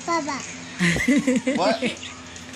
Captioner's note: laughs